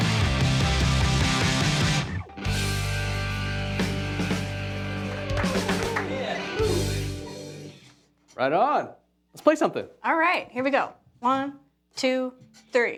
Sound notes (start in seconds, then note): 4.8 applause